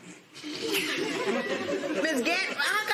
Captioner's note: laughter